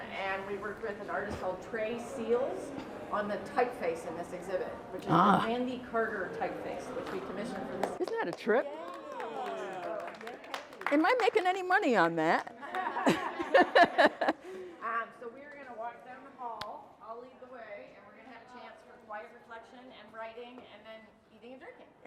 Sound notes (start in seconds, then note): 8.6 attendees clamor and applaud; 12.6 all laugh